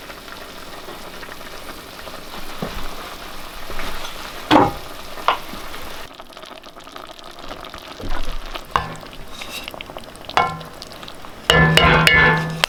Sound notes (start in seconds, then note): 0.1 food boiling; 4.5 pot lid thudding; 6.8 stew boiling; 9.2 utensil banging on pot